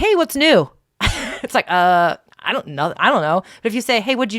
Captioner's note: laughs